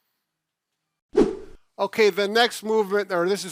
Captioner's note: whoosh noise